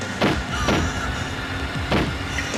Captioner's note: gunshot